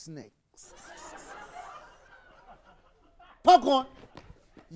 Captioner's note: audience laughing